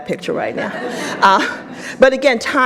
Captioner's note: audience laughs